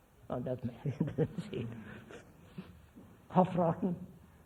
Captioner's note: laughs